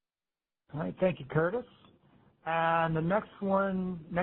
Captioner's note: voiceover